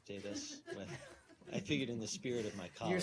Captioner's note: laughter